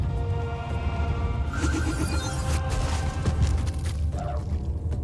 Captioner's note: rousing orchestral music; magic whooshing